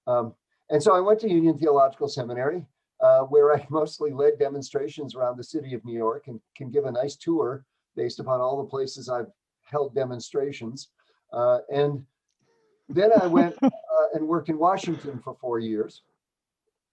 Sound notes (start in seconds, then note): 12.9 laughter